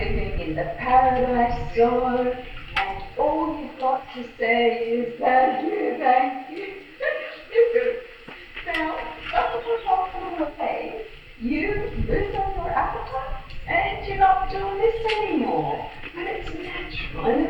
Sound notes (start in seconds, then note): 0.4 laughs; 14.9 eating